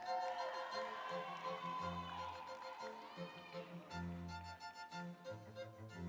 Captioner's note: audience cheering; instrumental music